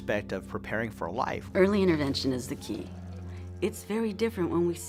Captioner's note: female voice